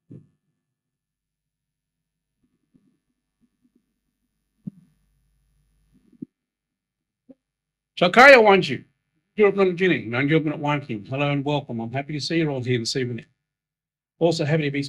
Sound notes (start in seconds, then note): 7.9 Speaking in Noongar